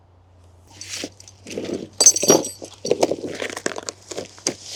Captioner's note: chain rattling